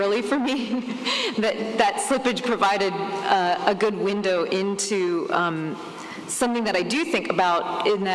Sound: laughs

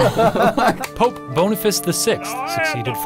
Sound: laughing

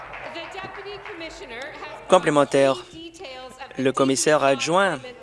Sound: applause

